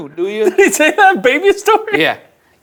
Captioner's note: laughing